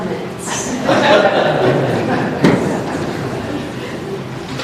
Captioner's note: laughter